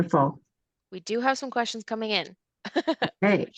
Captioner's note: chuckles